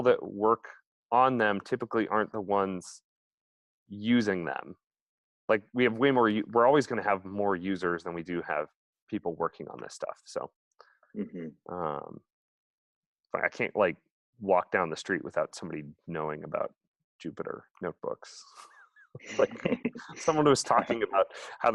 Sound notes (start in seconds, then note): 19.2 laughs